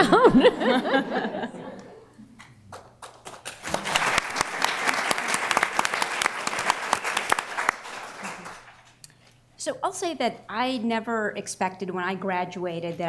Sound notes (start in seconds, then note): 0.0 laughter; 2.7 applause